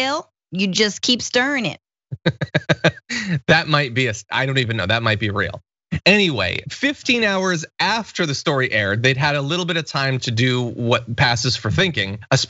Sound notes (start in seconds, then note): 2.1 laugh